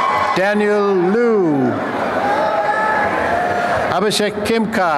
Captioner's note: applause and cheering